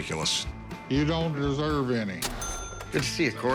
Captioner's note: cash register dings